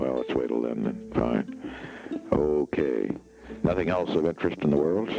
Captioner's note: breathes sharply